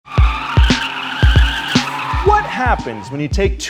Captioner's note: car wheels squealing